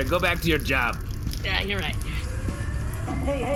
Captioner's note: fire alarm sounds